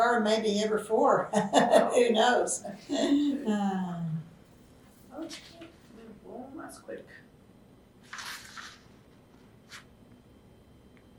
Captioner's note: laughs